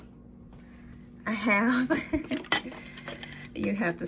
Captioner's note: chuckling